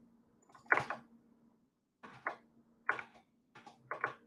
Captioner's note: keyboard clicks